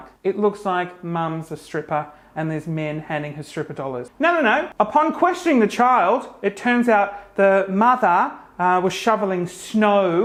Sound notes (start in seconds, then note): none